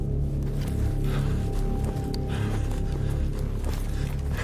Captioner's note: panting